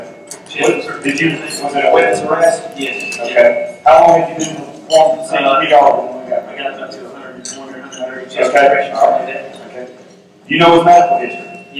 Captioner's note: microphone feedback